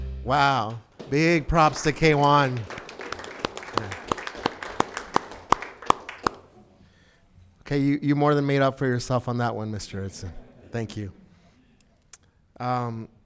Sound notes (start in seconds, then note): 0.0 bright music; 3.0 group clapping